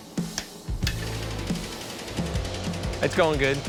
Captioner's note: hammer pounding; machinery whirring